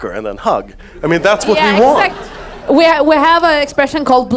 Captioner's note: audience laughs